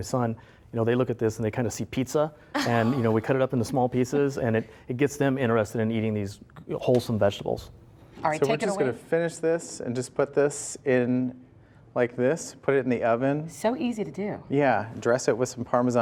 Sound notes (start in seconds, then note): 2.5 laughing